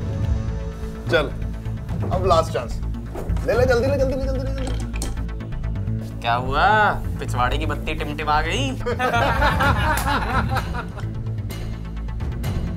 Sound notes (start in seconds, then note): 8.8 Laughing